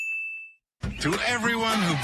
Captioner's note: ding